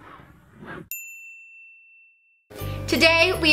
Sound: dinging

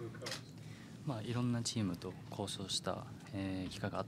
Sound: speaking Japanese

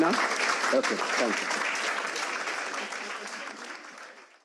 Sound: audience applauds

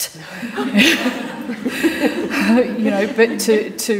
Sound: panellists laughing

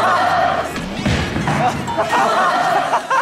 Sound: thud; splat

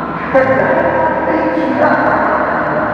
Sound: crazy man is laughing omg

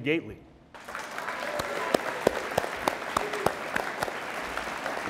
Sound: audience applauds

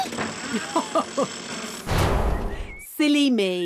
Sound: chuckles

